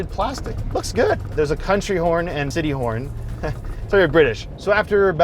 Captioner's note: laughs